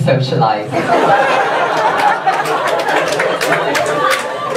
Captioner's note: audience laughs